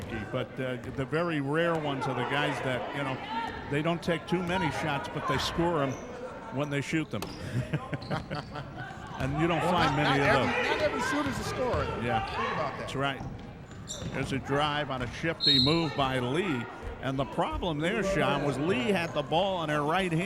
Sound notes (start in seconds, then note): 7.4 laughing; 15.3 referee whistling